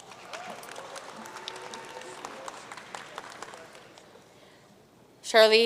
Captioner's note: audience cheering and applauding